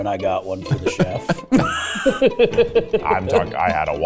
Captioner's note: laughing